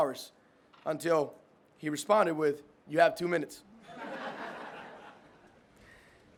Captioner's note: all laugh